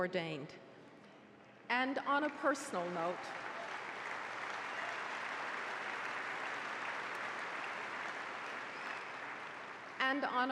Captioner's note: applause